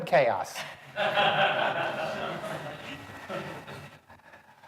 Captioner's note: audience laughing